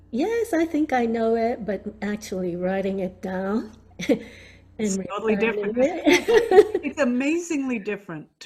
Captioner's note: laughing